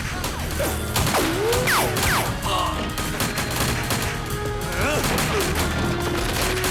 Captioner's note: explosives beeping; guns firing; slow music